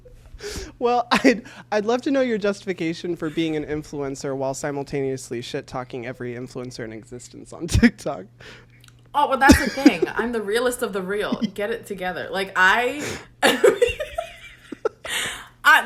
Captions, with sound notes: Well, I'd love to know your justification for being an influencer while simultaneously shit-talking every influencer in existence on TikTok. - Oh, well that's the thing. I'm the realist of the real, Get it together. Like I... (laughs)